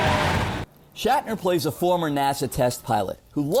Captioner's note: car speeds